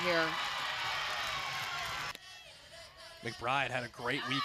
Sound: cheering

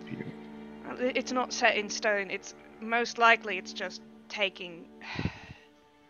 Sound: sighs

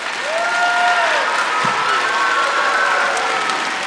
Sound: applause

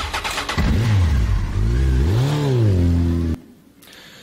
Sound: engine revving

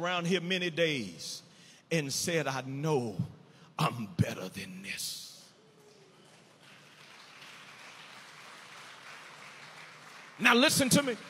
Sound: audience applauding

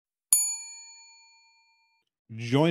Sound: ding

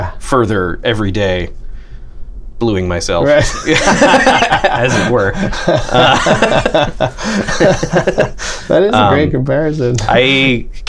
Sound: laughter

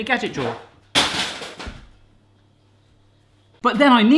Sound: drops on floor

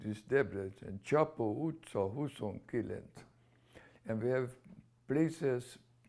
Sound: speaking hungarian

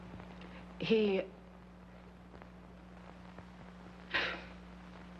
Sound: Ruthe sighing

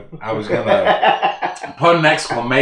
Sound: laughing

